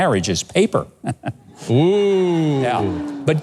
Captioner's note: laughing